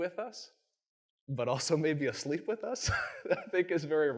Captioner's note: chuckles